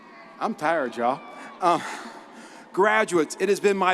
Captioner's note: laughs